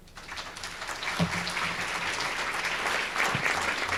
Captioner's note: audience clapping